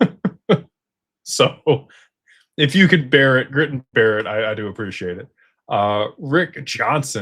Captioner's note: laughter